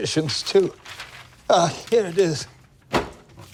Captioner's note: scoffs; papers rustling